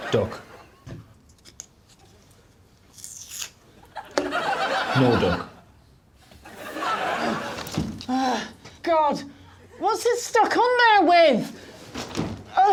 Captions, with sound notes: Duck. No duck. [Bridget grunts] God. What's it stuck on there with?